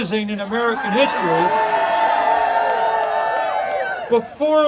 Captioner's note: audience cheering